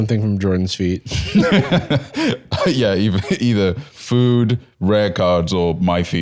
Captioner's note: laughs